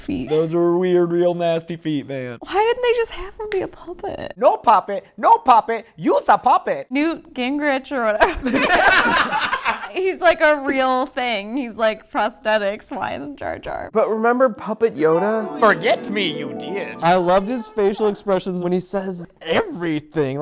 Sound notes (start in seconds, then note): 8.2 laughter